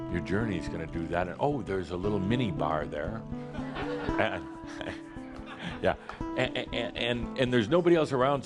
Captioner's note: laughter